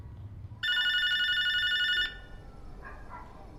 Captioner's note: doorbell ringing